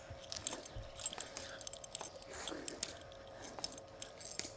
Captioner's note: chains clinking